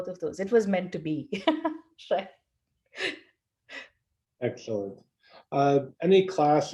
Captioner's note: laugh